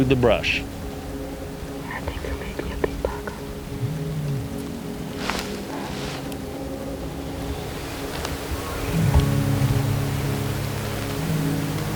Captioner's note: whispering